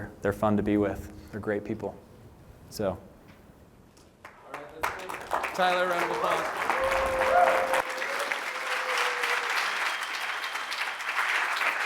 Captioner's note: applause